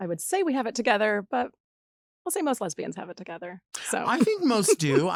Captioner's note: laughs